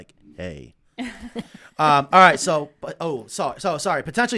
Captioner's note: laughing